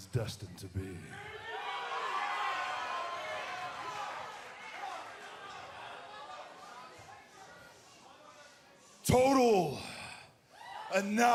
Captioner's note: cheers and applause